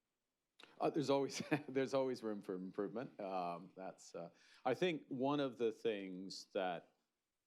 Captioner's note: laughs